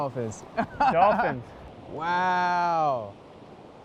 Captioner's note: laughing